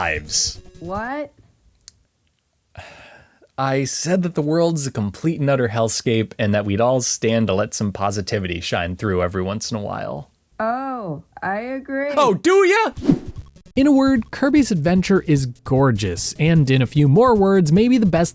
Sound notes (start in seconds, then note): 10.4 yelling offscreen